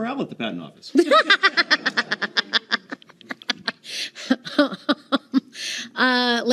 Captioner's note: laughing